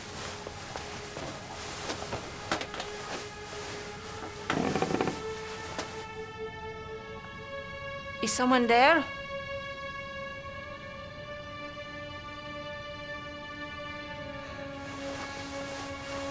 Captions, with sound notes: (ominous orchestral music) (floor creaking) - Is someone there?